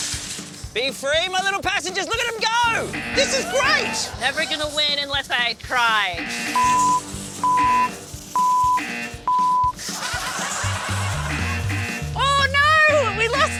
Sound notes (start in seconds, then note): 2.7 buzzer sounds three times; 6.1 buzzer sounds multiple times; 11.1 buzzer sounds multiple times; 11.3 buzzer sounds twice